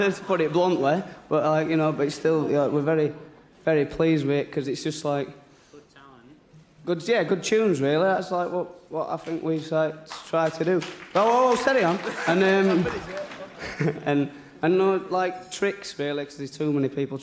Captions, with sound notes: sold as many records as... yeah. I hate to put it bluntly, but still, you know, we're very... very pleased with it 'cause it's just like... Good-- Yeah! Good tunes, really. That's, like, what I think we try to do. - [people clapping] - No, no, no, steady on. And then...